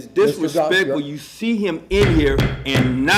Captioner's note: sounding gavel